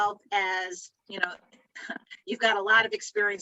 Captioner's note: chuckles